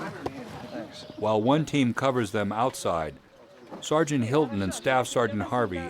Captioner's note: voiceover